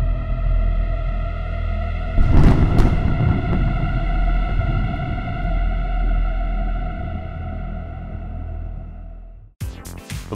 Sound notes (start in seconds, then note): 2.0 thunder crack